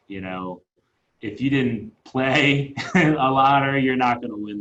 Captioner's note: laughing